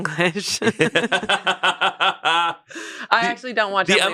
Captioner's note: laughs